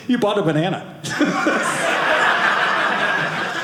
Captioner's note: audience laughing